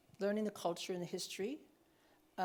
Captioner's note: none